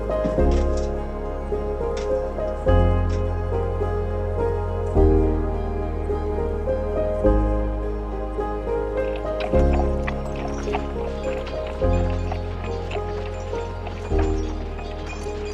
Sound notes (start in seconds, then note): 1.5 gentle music continues; 9.5 horse trotting